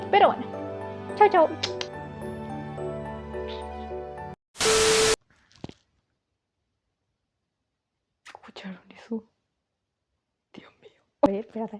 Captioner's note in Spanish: Sonido de galleta crujiente